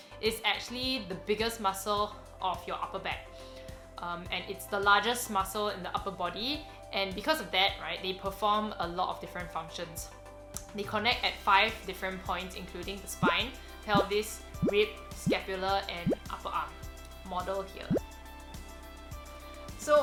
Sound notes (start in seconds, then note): 17.8 upbeat music; 17.9 low blooping